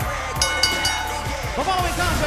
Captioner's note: crowd cheering; bell ringing